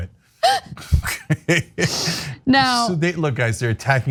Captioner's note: laugh